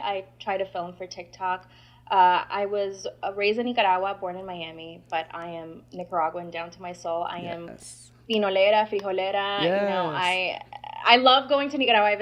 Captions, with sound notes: I try to film for TikTok. I was raised in Nicaragua, born in Miami, but I am Nicaraguan down to my soul. I am... - Yes. - I am (speaking Spanish). You know, I love going to Nicaragua.